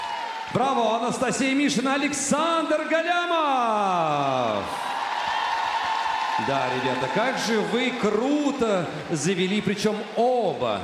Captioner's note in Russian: ликование; ликование